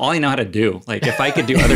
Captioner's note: laugh